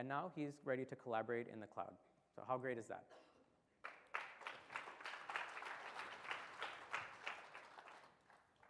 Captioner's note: applause